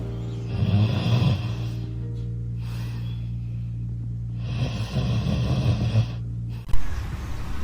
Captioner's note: yawning